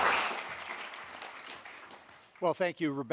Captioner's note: applause